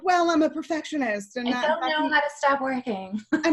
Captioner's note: laughs